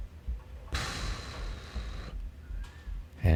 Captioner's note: pfffffff